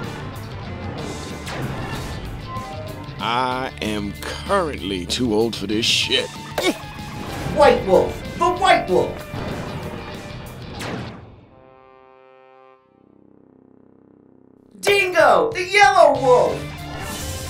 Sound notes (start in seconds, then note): 0.0 rock music; 6.5 grunts; 11.7 trombone sounds